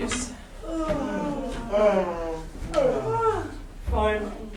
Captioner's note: sailors yawning